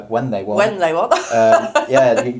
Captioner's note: laughs